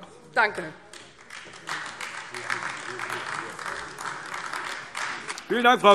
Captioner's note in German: Beifall AfD